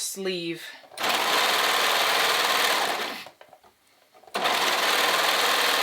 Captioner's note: sewing machine whirring